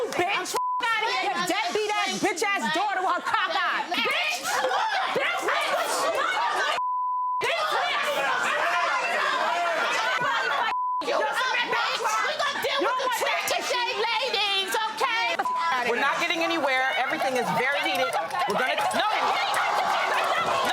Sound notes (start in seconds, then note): 4.3 screaming and fighting